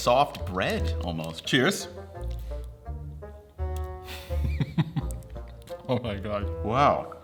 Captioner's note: laughs